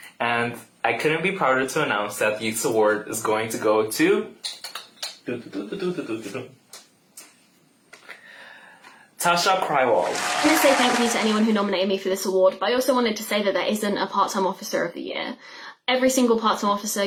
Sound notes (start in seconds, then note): 4.4 clicks tongue; 10.0 applause